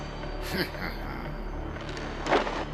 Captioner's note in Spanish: ríe